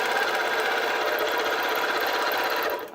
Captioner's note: machine whirring